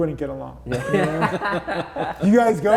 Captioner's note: everybody laughing